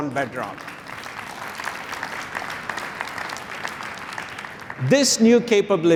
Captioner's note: applause